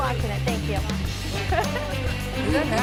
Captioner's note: laughs